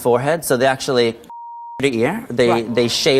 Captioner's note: beep